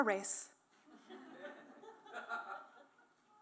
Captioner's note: laughter